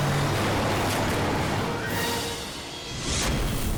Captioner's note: vehicle revs